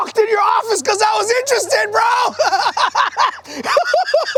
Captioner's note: laughs